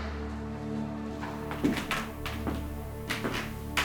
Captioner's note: footsteps; eerie music